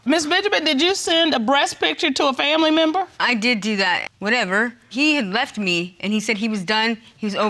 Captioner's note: none